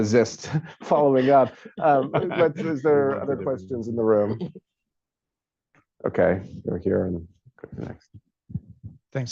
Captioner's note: laughter